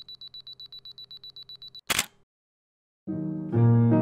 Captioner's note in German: Kameraauslöser